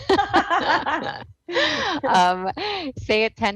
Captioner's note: both laughing